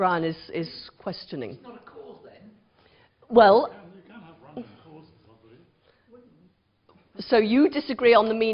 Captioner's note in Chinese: 無聲